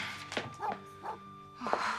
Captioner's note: dog Barking